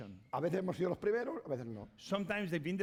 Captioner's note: speaking spanish